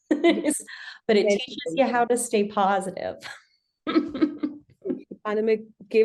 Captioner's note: laughs; laughs